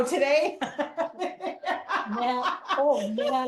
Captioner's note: laughs